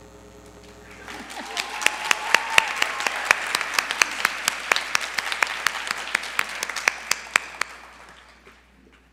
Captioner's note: applause